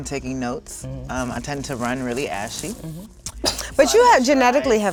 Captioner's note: Marsai snickers